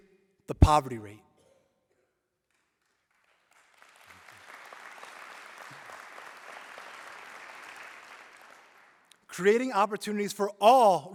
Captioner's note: applause